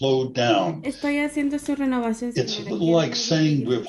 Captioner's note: woman speaks in Spanish